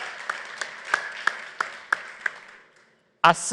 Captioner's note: applause